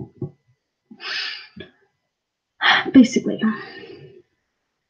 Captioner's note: sharp inhale and exhale